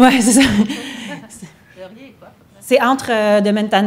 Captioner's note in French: rires